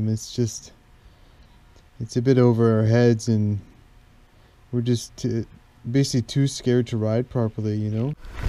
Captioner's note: none